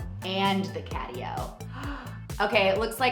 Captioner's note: Jillian gasps